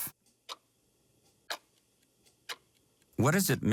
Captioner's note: clock ticking